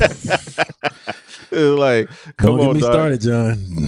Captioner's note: laughter